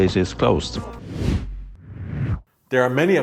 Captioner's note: whooshing